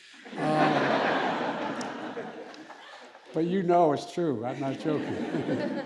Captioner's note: laughter